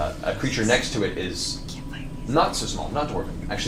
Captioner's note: whispers